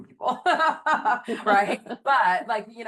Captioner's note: laughing